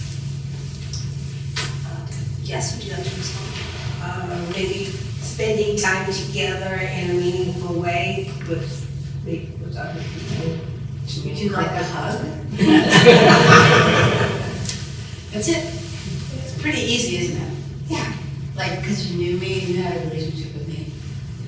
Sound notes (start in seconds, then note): 12.5 laughter